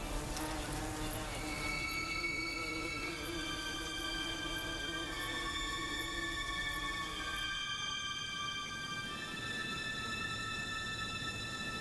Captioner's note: flies buzzing